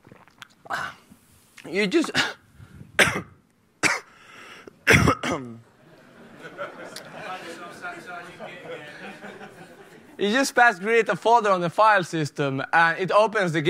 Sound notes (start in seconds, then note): 4.8 coughing; 5.8 laughter